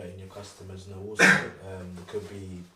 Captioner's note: coughs